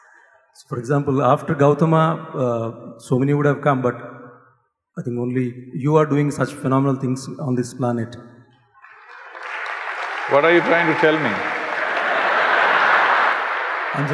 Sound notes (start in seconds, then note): 8.8 applause; 11.5 laughter